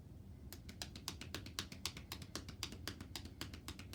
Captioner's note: hands tapping